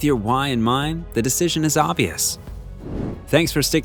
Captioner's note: air whooshing